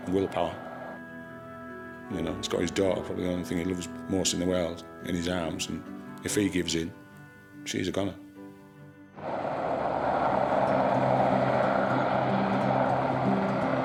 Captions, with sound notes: Willpower, you know, he's got his daughter probably the only thing he loves most in the world, in his arms, and if he gives in, she's a gonner. (lighthearted music) (helicopter whirls) (energetic music)